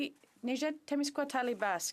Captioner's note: speaking Alternate Language